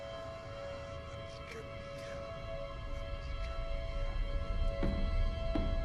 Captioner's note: demonic voice speaking in tongues; ominous music